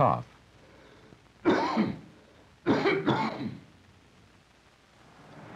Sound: coughing

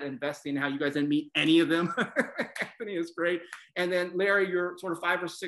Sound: laugh

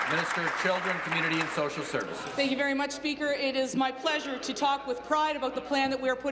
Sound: applause

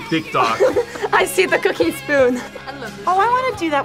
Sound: laughs

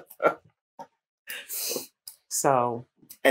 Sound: laughter

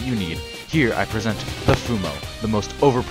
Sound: slam

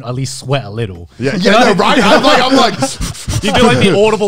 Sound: breathes heavily

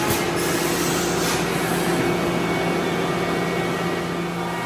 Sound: factory whirring

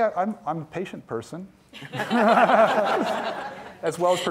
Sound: all laughing

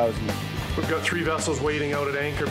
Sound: male Voice

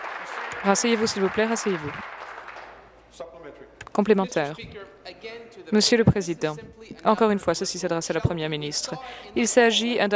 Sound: applause

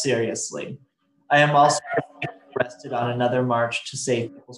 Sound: faintly speaking

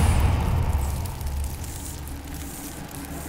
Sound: scurrying noise

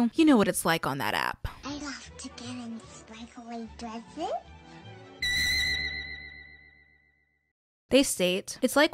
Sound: high pitched noise

